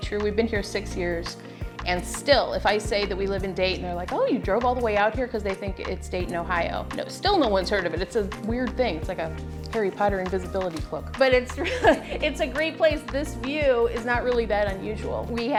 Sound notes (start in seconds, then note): 11.6 laughs